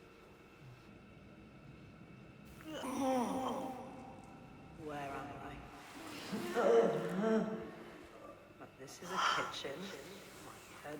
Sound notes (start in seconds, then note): 4.0 voiceover